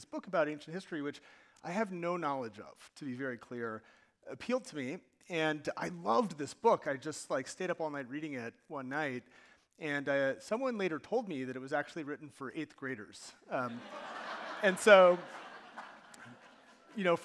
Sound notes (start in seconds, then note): 13.5 audience laughing